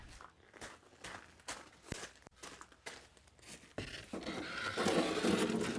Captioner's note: gravel crunching; wood scraping